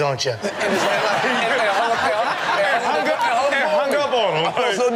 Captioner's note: everyone laughs